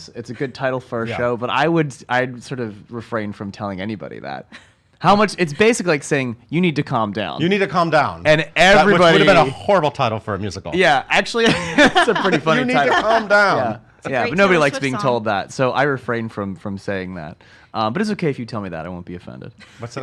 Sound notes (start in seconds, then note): 11.4 laughs